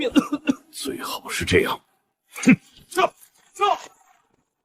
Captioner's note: cough cough